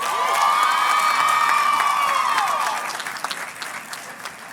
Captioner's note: crowd cheers and claps